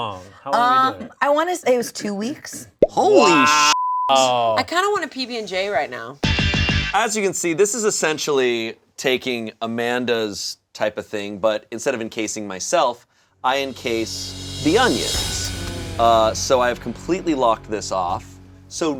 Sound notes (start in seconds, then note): 3.5 beeps; 6.2 upbeat music; 13.6 dramatic music